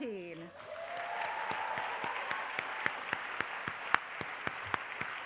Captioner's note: applause